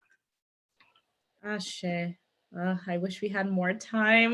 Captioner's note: non-english speech